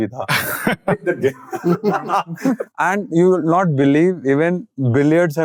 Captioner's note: all laugh